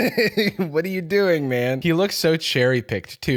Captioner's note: laughs